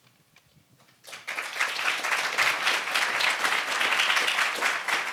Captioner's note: audience applauds